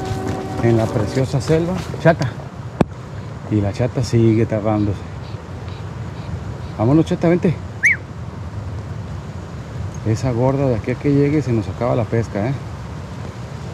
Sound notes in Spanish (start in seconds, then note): 7.8 silbido